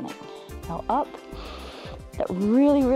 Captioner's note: inhales